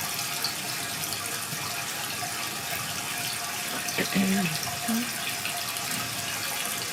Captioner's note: water trickling continues